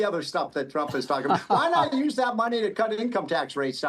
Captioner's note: laughter